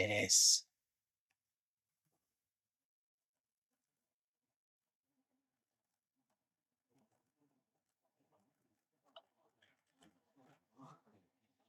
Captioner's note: silence